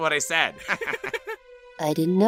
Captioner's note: laughter